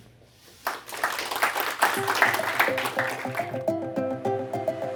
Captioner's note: applause